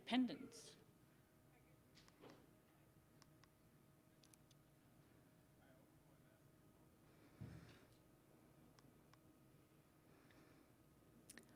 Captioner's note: silence